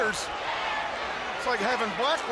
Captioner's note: crowd chatter